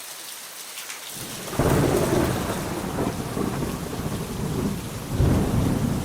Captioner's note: thunder cracks